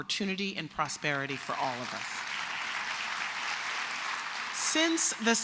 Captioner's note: applause